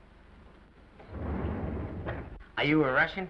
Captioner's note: doors sliding